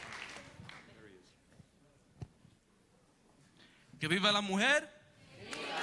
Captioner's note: speaks Spanish